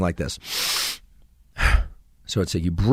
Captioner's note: inhales vigorously, exhales passively